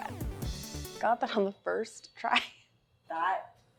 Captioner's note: chuckles